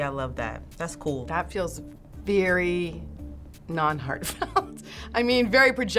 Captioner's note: laughing